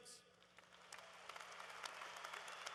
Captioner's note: applause